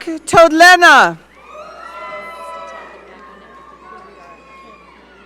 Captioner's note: audience cheering